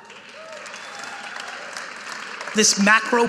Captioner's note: audience applauding